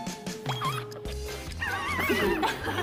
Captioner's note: blowing